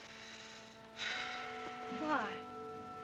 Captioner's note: Johnny sighs